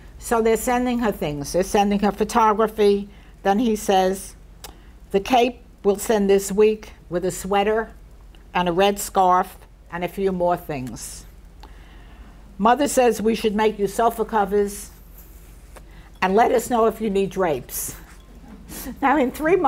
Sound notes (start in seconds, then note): 18.3 chuckles; 18.4 people in audience laugh